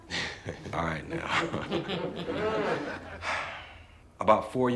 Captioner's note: crowd chuckling